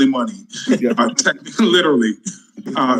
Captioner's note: panelists laughing